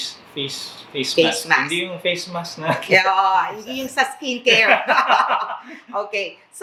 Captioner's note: laughs